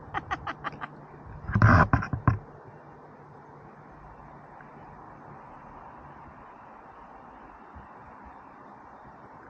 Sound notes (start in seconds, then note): 0.0 laughter; 4.5 traffic noise in the background